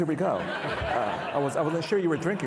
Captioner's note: participants laughing